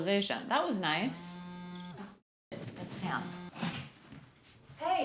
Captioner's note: phone buzzing